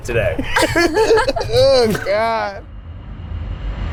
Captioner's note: laughing